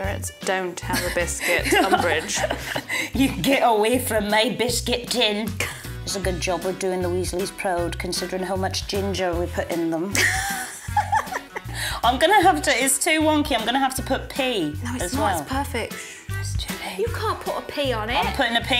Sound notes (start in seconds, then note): 10.2 laughs